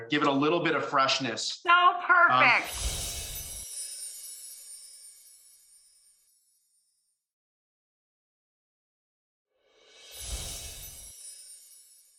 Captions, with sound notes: Give it a little bit of freshness. So perfect! (air whooshes) (wind chime music)